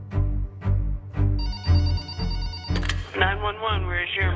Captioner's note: telephone rings